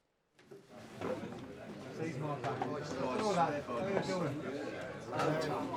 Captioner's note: light chatter